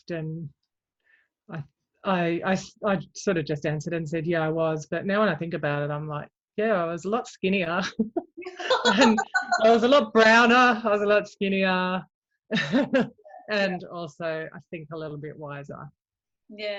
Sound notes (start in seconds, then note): 8.0 both laugh; 12.4 chuckles